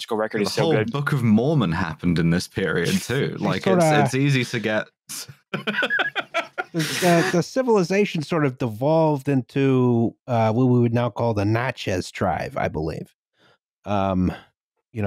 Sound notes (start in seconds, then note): 3.0 laughter; 5.5 laughter